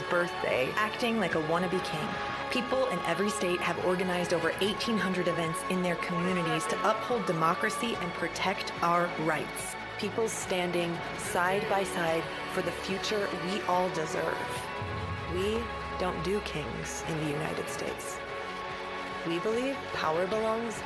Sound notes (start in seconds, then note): none